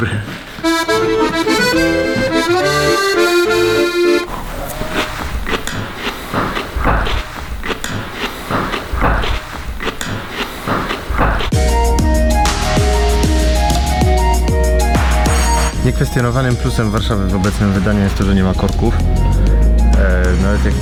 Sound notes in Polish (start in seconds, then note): 0.5 stereotypowa muzyka francuska; 5.0 odgłosy przeżuwania